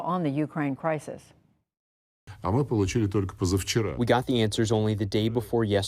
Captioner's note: through translator